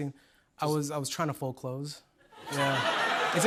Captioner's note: laughter